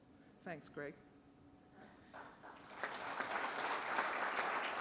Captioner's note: applause